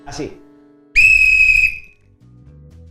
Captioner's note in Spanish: sonido silbato